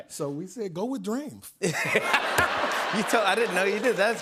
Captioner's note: laughter